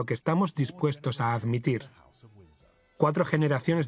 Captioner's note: voiceover